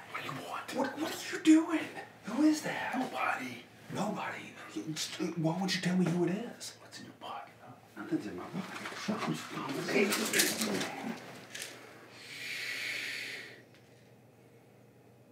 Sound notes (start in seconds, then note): 8.7 pills rattling